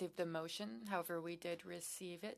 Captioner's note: speaking French